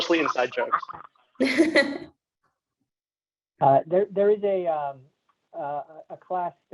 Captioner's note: laugh